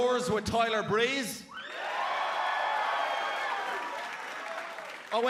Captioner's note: cheers and applause